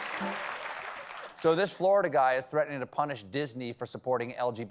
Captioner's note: applause